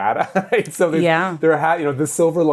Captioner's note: laughs